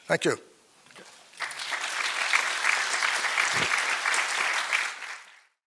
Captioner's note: applause